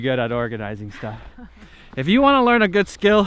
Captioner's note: laughing